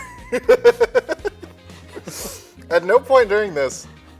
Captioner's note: laughter